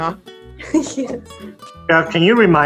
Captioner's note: giggling softly